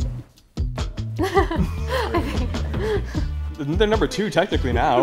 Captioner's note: people laughing